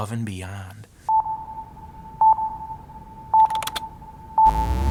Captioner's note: electronic timer